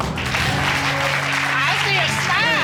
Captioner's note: audience clapping